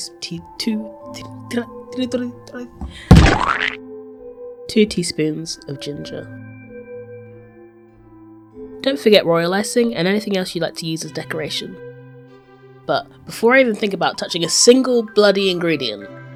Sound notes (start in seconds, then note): 2.8 head slam on to table + Deltarue Splat sound effects; 4.7 solemnly